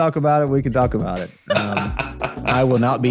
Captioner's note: laughs